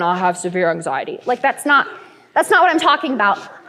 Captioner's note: light laughter